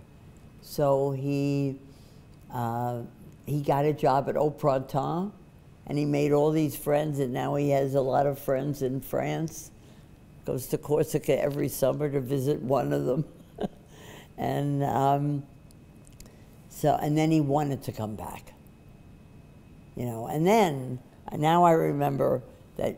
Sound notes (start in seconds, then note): 13.4 laughs